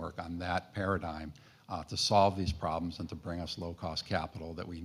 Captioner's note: none